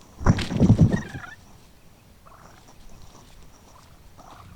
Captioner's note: turkey purring